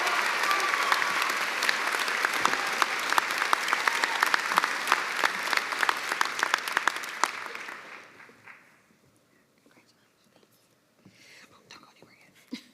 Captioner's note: cheers and applause